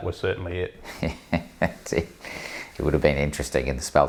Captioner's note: laughs